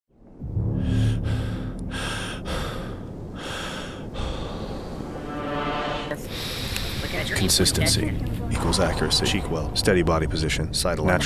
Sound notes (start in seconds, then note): 0.7 heavy Breathing; 5.5 dramatic Music; 6.1 deep breath